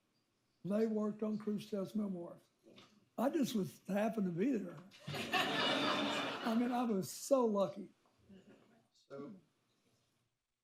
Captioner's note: laughter